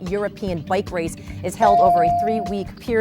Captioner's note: bell dings